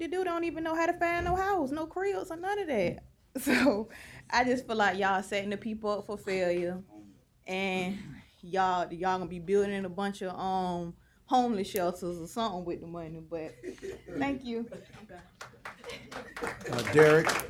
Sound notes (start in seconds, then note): 15.3 applause